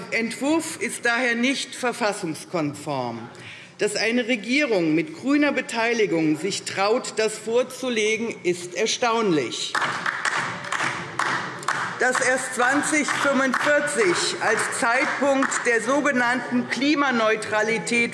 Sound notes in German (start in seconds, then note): 9.7 Beifall DIE LINKE